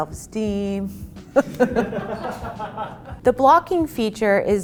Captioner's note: group laughs